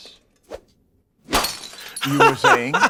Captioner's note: smash